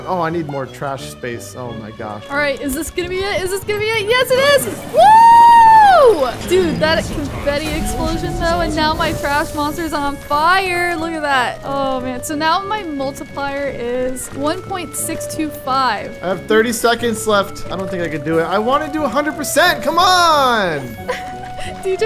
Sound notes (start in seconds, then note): 4.5 cheering